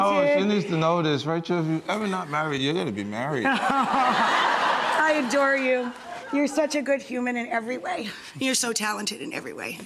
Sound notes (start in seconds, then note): 3.4 audience laughter